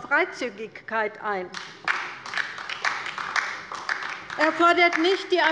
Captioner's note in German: Beifall bei der LINKEN